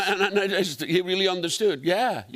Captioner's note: laughter